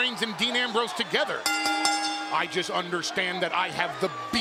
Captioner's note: bell dings